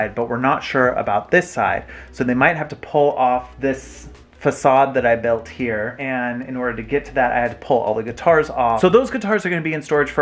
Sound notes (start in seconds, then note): none